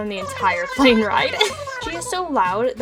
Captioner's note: giggles